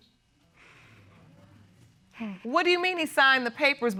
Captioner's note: sighs